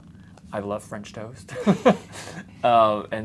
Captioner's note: laughs